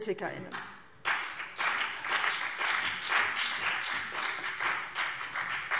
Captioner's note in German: Beifall BÜNDNIS 90/DIE GRÜNEN